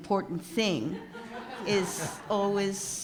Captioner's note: audience laughs